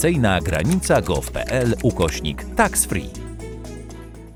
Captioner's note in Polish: odgłosy klawiatury